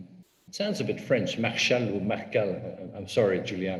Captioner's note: foreign language